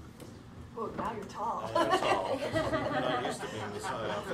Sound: laughter

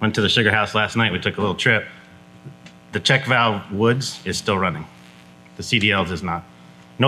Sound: none

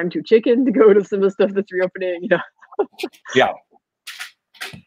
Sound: laughs

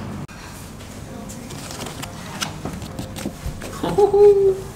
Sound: sound of scratching the box

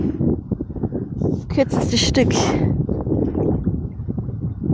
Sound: wind

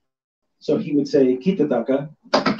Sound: speaks foreign language

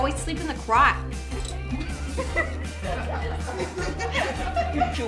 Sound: loud laughing

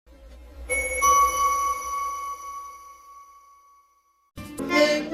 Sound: ding; accordion music playing

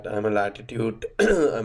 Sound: cough

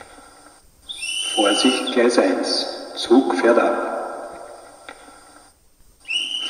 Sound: conductor's whistle; conductor's whistle

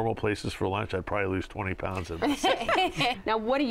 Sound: laughter

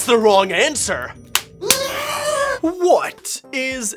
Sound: smacks belt; screaming

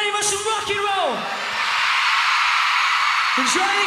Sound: crowd cheers

